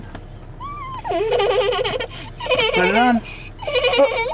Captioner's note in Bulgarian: плаче